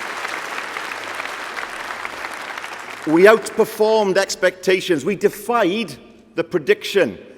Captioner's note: applause